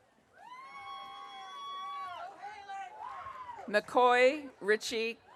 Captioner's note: audience cheering